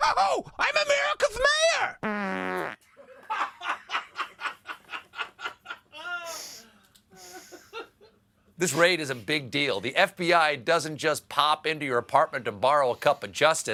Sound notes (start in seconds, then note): 2.0 farting